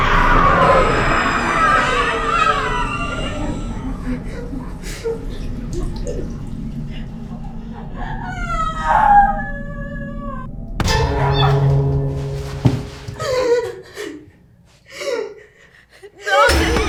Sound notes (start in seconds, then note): 0.2 woman screaming; 9.2 woman sobbing; 13.3 Lorraine whimpering; 16.5 intense music; 16.7 Lorraine gasping